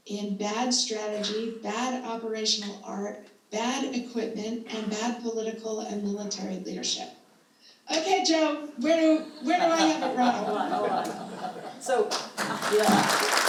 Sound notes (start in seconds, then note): 11.2 all chuckling